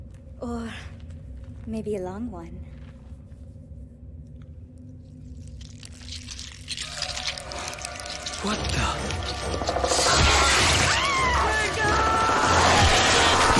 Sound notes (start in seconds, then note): 5.2 squelching; 10.0 screaming